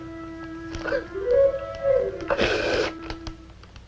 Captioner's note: sobbing